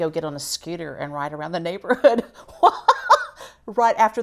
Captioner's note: laughs